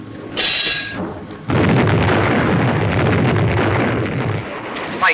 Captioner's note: bombs exploding